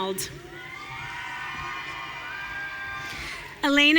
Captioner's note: audience cheering